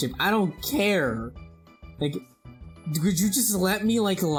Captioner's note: none